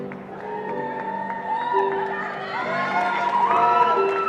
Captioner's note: cheering